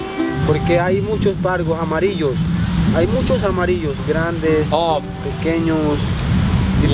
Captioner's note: Spanish